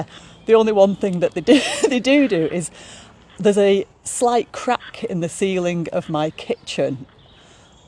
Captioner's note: laughs